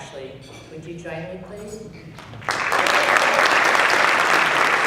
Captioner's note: applause